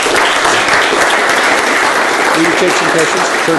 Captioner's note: applause